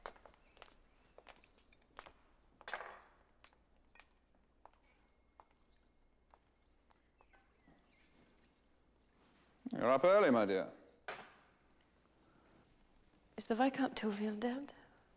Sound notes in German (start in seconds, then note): 4.7 Klingeln der Uhr